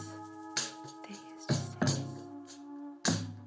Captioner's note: in a whisper